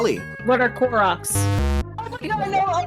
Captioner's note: wrong buzzer